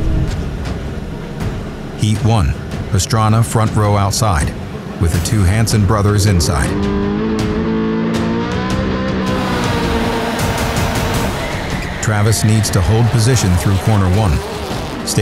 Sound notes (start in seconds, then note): 0.0 dramatic music; 7.2 car engine revving